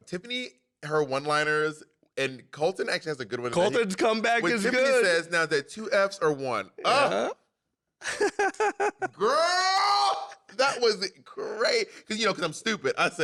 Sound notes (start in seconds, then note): 8.0 laughs